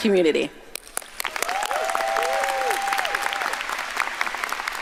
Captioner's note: audience applauding